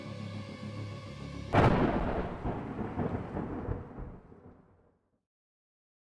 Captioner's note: thunder claps and rumbles